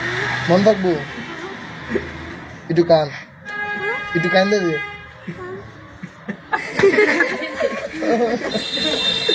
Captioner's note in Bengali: সশব্দ হাসি